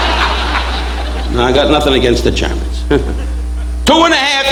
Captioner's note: audience laughing; chuckles ruefully